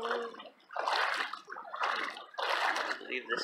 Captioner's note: sing-song voice; splashing